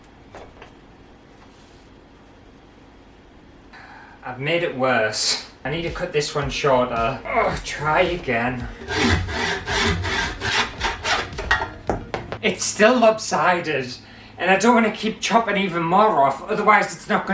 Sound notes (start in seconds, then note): 8.5 sawing Sounds